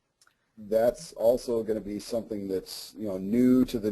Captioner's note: voiceover